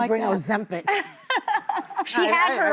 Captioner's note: laughing